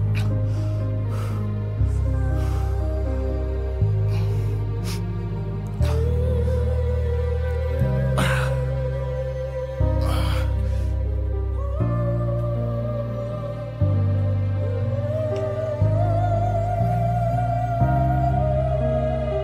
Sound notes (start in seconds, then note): 0.1 somber orchestral music continues; 8.6 grunting